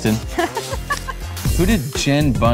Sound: laughing

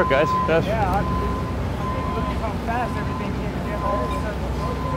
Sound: noise from work site

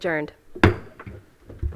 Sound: gavel hitting dais

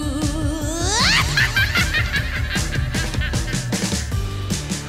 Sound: witch cackle

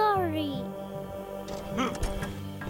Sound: grunts

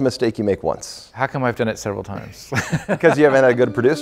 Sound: laughs

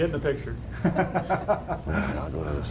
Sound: man laughs

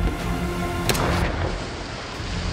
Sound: gunshot

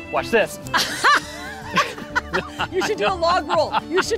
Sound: both laughing

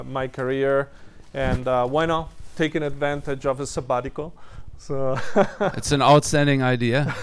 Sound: laughs

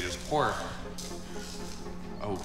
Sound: electrical buzzing

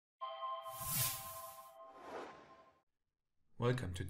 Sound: sound effect

